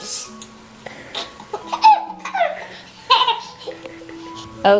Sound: giggles

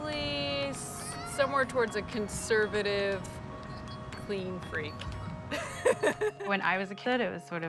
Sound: laughs

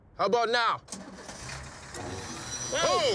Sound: engine starting

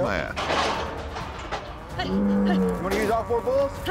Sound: gate clanking

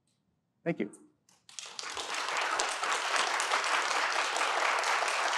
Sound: audience applauding

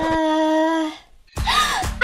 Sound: gasp

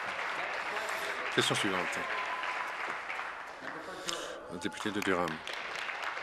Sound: applause

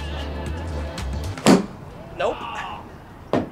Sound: golf club striking

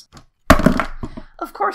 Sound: crash

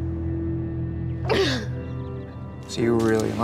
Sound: crying

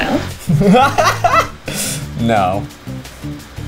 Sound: man laughs

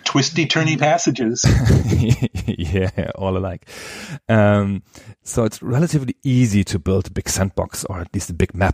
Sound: laughs

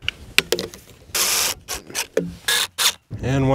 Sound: drill whirling

